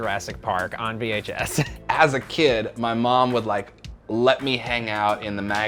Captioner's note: laughs